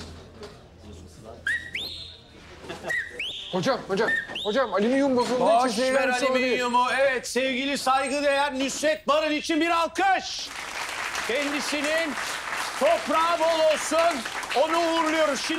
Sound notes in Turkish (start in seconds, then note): 1.4 Islık çalıyor